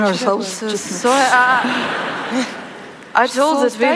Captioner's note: laughter